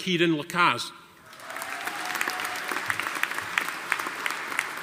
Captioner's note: audience applauding